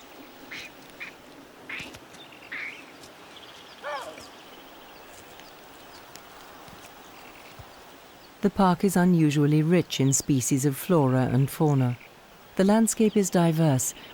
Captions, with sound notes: (monkeys chattering) The park is unusually rich in species of flora and fauna. The landscape is diverse